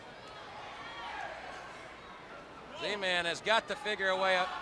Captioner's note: crowd chatter